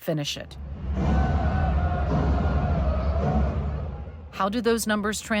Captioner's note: crowd cheering